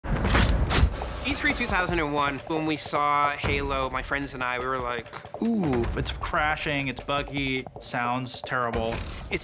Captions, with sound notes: [GUN RELOADING] E3 2001, when we saw Halo, my friends and I, we were like, "Ugh." It's crashing, it's buggy, it sounds terrible.